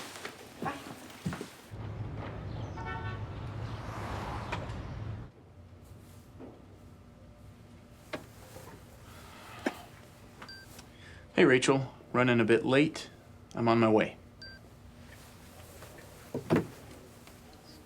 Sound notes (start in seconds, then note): 2.6 car horn honks; 9.3 Kevin sighs; 10.5 phone beeps; 14.4 phone beeps